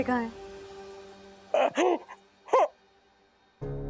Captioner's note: sobbing